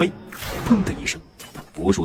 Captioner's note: boom!